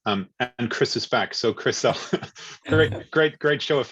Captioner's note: laughs